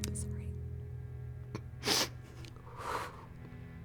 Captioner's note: sniffles